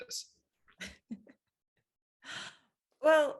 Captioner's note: laughing